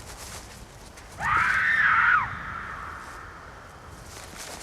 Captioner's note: scream